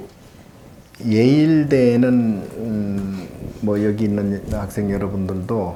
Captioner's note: speaking Korean